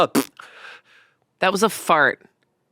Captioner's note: imitates fart